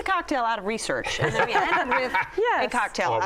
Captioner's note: laughter